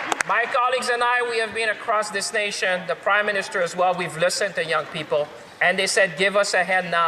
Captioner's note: some Applause